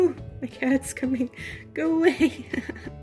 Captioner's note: laughing